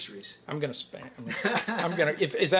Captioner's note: chuckles